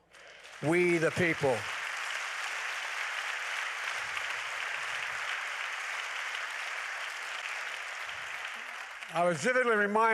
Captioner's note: applause